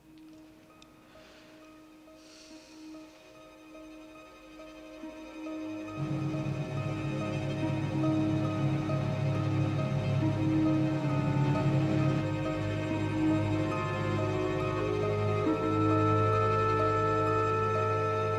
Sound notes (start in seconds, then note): 2.2 both sigh; 6.8 ominous music playing